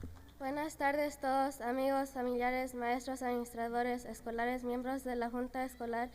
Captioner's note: speaking in foreign language